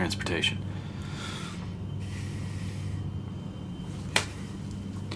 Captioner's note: Michael sighs